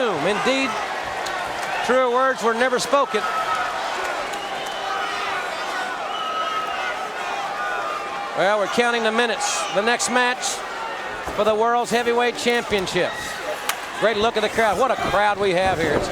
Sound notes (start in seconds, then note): 3.3 audience cheering